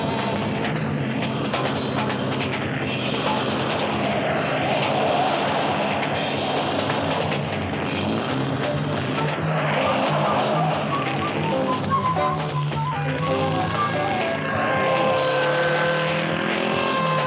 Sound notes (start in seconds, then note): 0.0 upbeat funk music; 9.6 tires screeching; 13.0 siren blaring